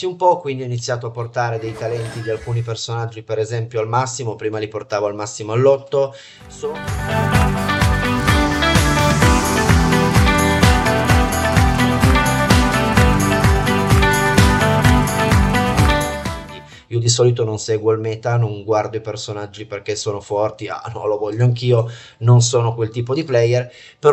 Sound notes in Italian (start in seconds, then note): 9.7 Applauso